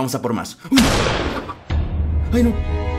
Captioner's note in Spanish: Disparo